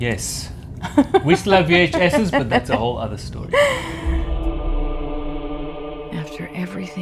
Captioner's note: laughs